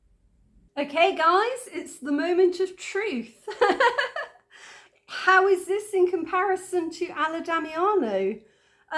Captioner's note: laughing